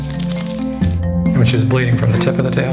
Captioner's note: metal clangs